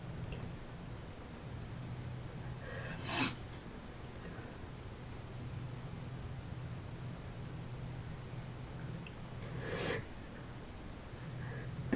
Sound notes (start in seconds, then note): 2.6 sniffling